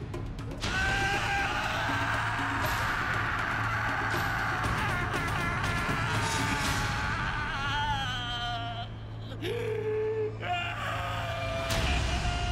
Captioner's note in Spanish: Gritos